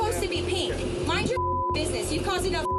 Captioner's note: beep